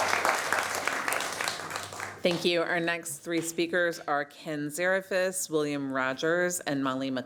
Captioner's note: applause